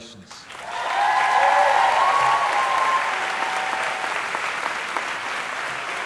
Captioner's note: audience applauding and cheering